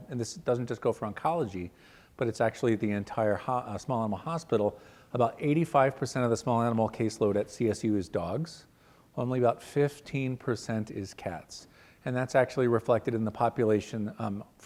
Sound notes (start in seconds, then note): none